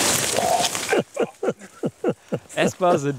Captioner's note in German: Sie lachen